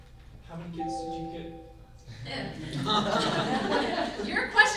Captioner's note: computer beeps; group laughs